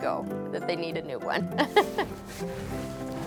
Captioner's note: laughs